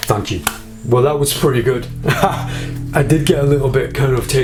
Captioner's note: laughs